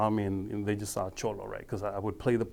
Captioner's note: speaking foreign language